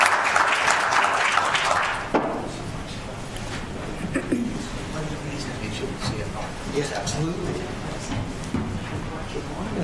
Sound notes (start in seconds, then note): 3.6 background chatter